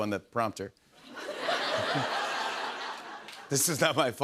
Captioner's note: laughter